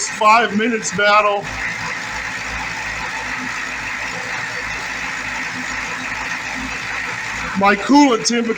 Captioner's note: engine idling